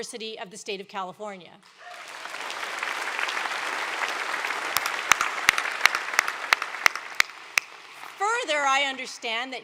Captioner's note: applause